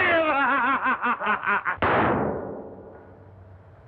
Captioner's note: gun firing